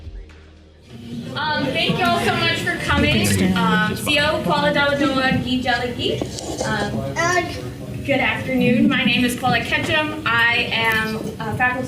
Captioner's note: native words spoken